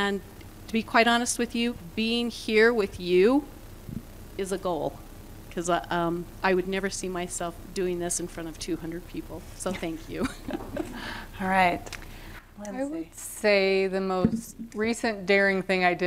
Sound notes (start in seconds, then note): 10.1 laughter